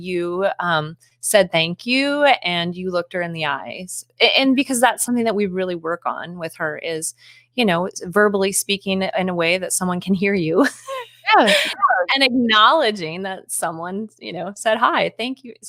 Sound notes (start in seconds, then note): 11.1 speaking faintly